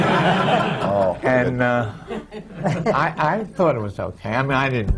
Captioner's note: laughter